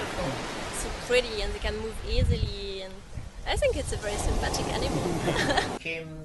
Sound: laughter

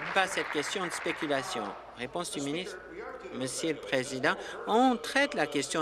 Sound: applause

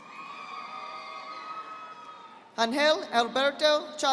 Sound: audience applauding

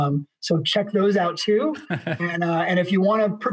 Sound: laughs

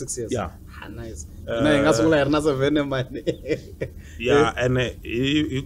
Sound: laughs

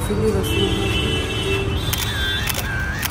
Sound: camera shutter noises

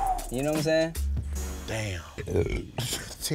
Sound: belches loudly

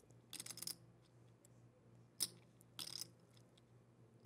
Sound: chips clicking

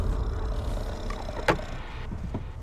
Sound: growling

